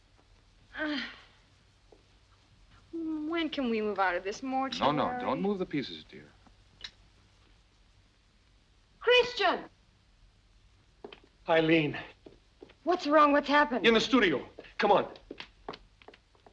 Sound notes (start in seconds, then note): 0.8 Brigitte groans